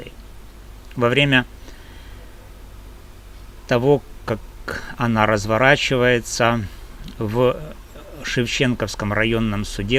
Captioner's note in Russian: откашливается